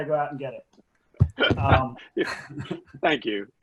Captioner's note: laughs